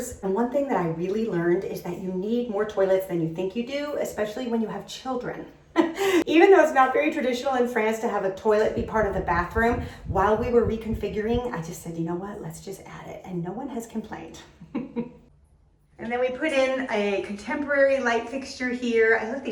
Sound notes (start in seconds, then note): 14.6 laughs